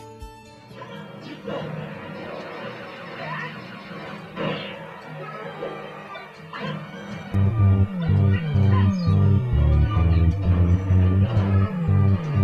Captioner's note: video game sounds in background